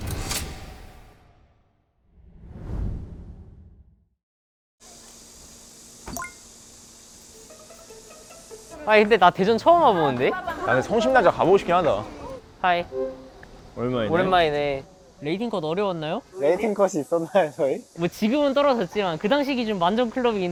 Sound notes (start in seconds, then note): 18.7 laughs